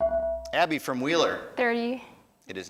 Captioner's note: ding